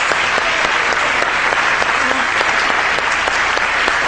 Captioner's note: audience clapping